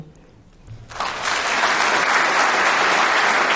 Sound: clapping

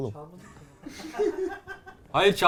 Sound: laughter

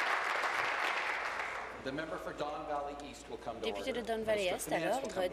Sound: applause

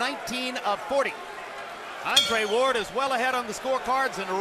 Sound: bell dings

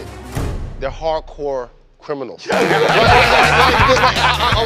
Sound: laughter

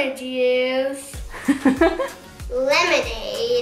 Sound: laughs

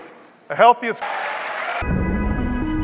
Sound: applause

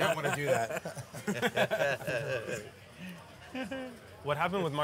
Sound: laughing

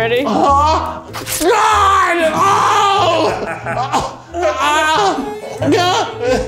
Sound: screams

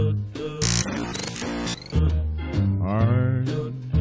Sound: loud static plays

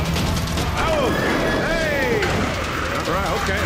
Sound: metal clanking

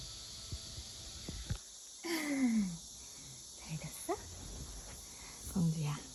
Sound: cicada sound as we open the window

